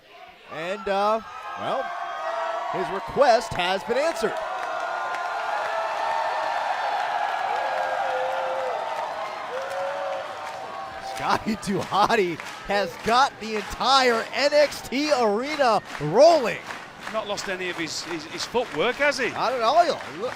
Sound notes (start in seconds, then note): 4.3 crowd cheering